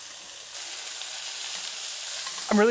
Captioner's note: sizzling